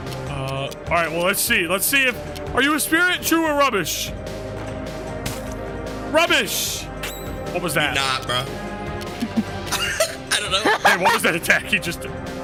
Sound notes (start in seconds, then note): 9.1 laughs